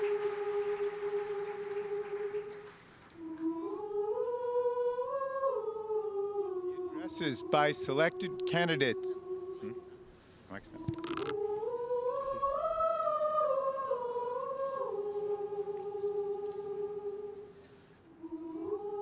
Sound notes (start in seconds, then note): 0.0 audience cheering; 0.0 lighthearted humming; 10.5 lighthearted humming